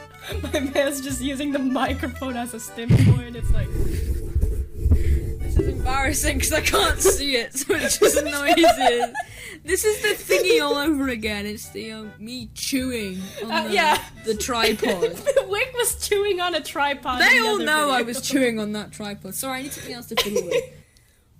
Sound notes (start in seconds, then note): 3.3 rubs her hands all over her mic; 6.6 laughing; 13.2 laughing